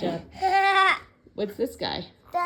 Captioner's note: vocalizing